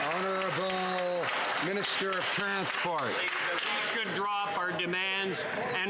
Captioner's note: some Applause